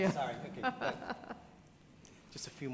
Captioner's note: faintly speaking